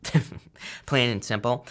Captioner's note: laughs